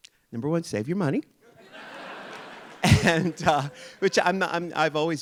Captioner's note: audience laughing